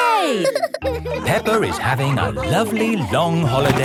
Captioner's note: all laughing